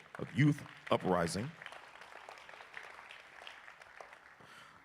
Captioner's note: applause